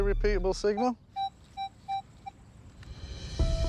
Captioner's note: electronic beeping